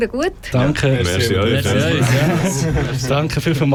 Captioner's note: flattered thanking noises